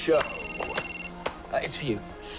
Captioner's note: phone rings